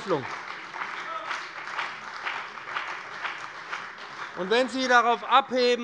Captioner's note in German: Beifall bei dem BÜNDNIS 90/DIE GRÜNEN und der CDU - Zurufe von der SPD